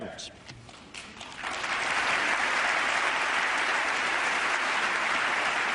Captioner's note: applause